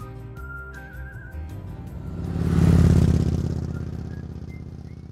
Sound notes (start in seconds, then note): 0.0 gentle music; 1.4 engine revving